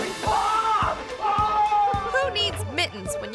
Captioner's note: screaming